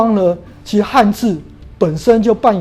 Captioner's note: chinese words